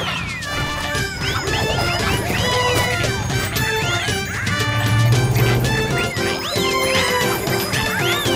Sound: horn blowing

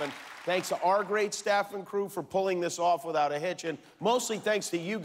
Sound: cheers and applause

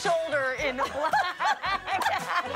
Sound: laughter

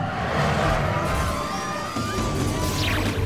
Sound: people screaming

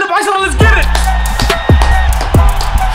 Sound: applause

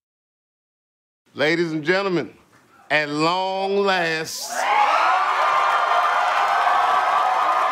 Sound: audience cheering

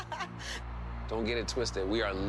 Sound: laughs

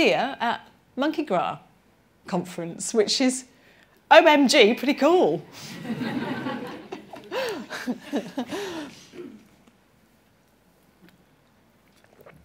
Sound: laughter

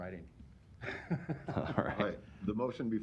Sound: laughter

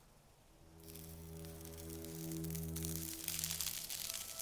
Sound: gentle scratching on the glass

